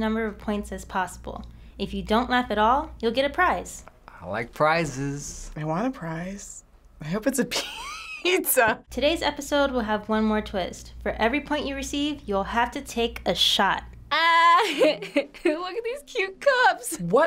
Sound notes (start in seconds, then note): 7.5 chuckles; 14.5 giggles